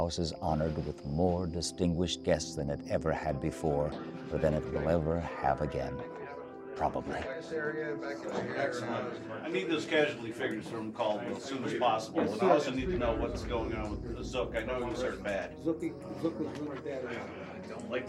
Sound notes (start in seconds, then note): 7.4 overlapping chatter